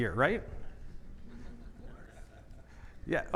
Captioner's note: audience laughing